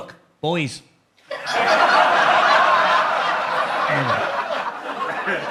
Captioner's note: audience laughs